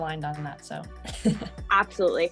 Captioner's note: laughing